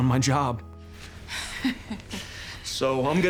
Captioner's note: laughs